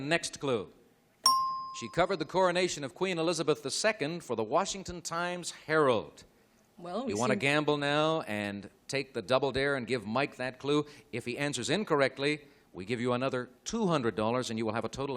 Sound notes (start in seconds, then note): 1.2 ding